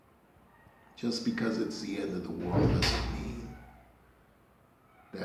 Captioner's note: rattling noise